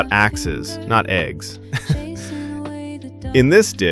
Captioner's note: haha